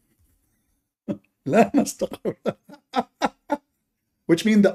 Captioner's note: Ketawa